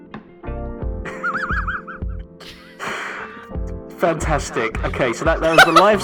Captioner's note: laughs